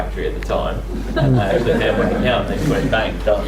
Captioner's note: audience laughs